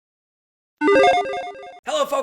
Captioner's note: logo chiming